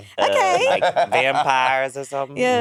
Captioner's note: Monét laughing